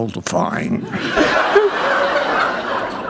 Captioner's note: laughter